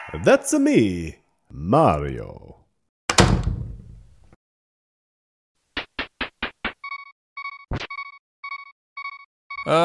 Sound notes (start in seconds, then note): 5.8 descending footsteps on staircase; 7.4 loud beeping; 9.6 groaning